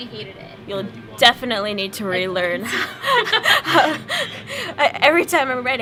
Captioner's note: laughter